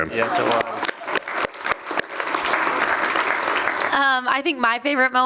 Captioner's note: applause